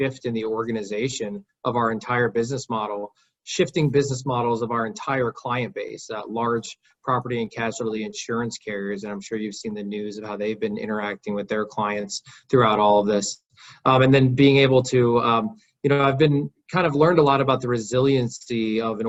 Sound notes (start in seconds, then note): none